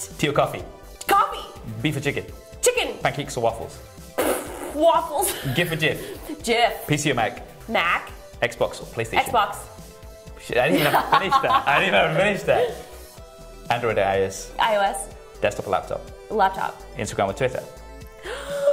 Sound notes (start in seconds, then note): 5.0 laughs; 12.5 laughter; 18.1 shocked inhale